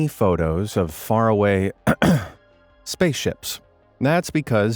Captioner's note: clears throat